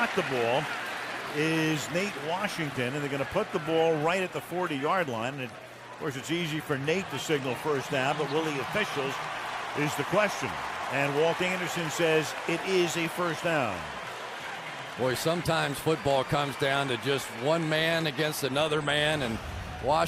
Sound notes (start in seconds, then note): 14.4 applause